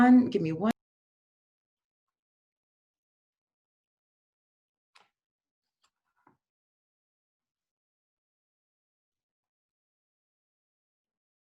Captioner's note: audio cuts out